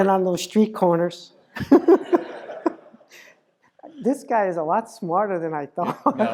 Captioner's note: laugh